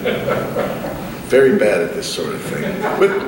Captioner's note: laughter